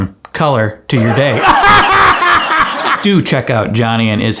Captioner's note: laughs